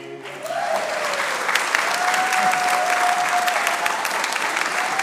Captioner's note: audience applauding